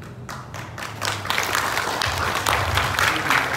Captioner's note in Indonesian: tepuk tangan